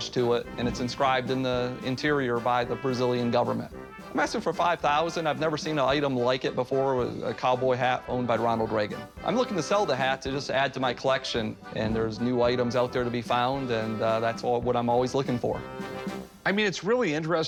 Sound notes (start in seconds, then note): none